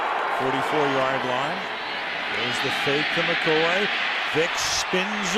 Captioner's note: cheering